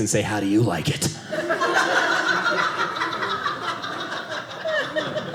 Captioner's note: audience laughing